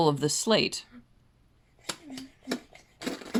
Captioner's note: making fart sounds while hitting his cheeks with the slate